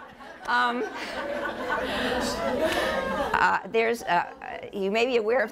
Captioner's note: audience laughter